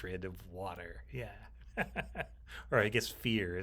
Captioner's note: chuckles